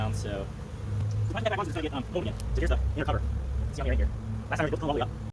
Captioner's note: sped up talking